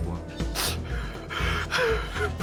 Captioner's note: crying